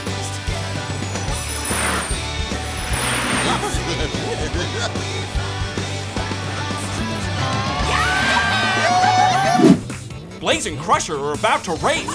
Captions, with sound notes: [giggling] [cheering] Blaze and Crusher are about to race.